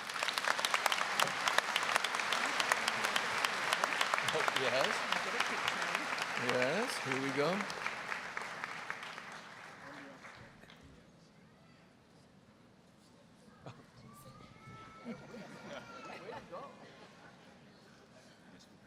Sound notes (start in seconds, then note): 0.0 applause; 15.8 audience chuckling